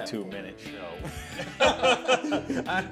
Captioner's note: laughing